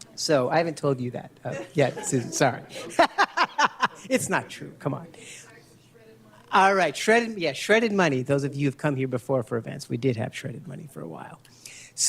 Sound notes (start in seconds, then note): 1.5 laughs